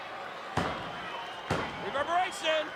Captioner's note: pounding mat